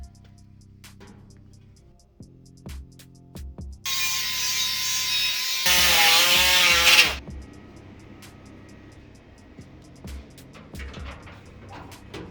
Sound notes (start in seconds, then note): 7.1 drill whirring